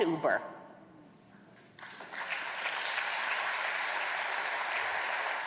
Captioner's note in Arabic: تصفيق